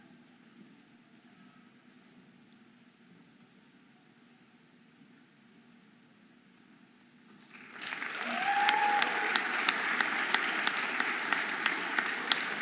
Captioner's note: audience applauding and cheering